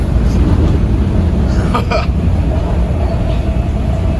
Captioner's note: chuckles